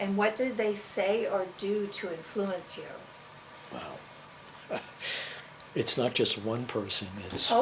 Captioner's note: laughs